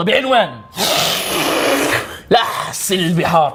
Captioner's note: slurping noises